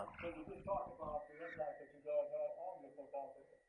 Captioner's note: muffled microphone